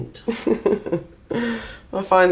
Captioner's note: laughs